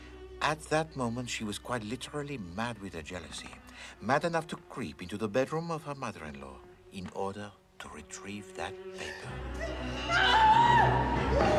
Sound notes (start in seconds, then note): 9.6 Berteriak